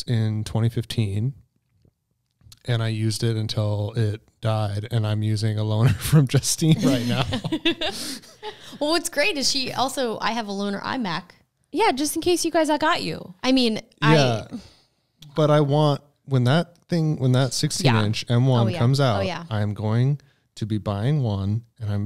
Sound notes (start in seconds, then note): 6.6 laughs